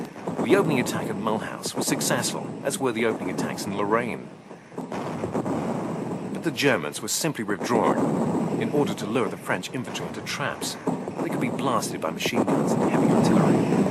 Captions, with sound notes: The opening attack of Mulhouse was successful as were the opening attacks in Lorraine. [bombs exploding] But the Germans were simply withdrawing in order to lure the French infantry into traps. They could be blasted by machine guns at any time.